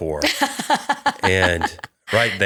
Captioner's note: laughter